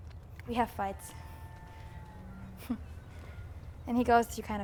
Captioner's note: chuckles